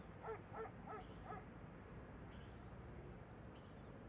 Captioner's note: dog barking